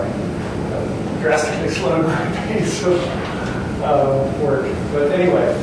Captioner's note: chuckles